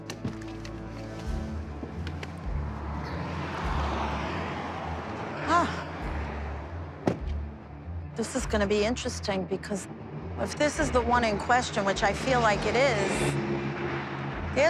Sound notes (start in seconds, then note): 7.0 car door closes